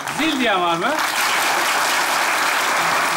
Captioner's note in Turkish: alkış sesleri